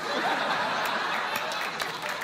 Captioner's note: laughter; applause